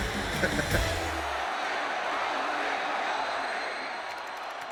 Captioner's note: crowd cheering